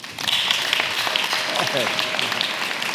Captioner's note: applause